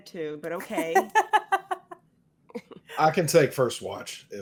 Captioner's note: laughs